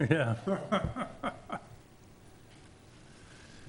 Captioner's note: all laugh